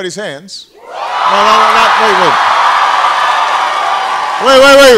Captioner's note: loud cheering